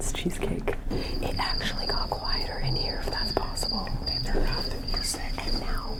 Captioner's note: cicadas chirp; whispers